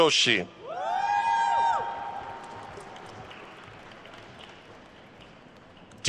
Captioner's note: attendees cheering and applauding